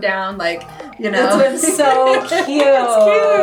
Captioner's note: laughs